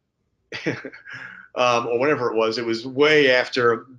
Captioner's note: chuckles